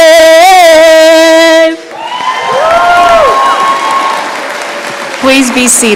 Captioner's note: applause